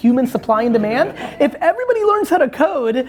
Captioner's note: laughing